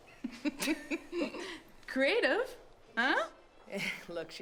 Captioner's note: laughs